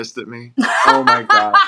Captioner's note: laugh